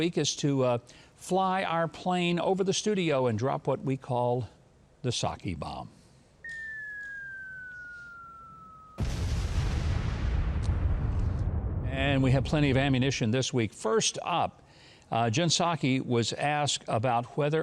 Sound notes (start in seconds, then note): 6.4 bomb whistling; 8.9 structure explodes